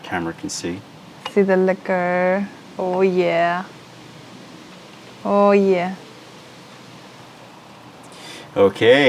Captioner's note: pouring tea